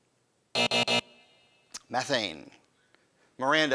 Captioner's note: buzzing